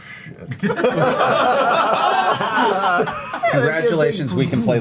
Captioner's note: all laugh